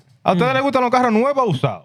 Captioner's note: speaking Spanish